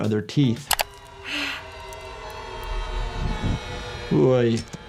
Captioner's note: winces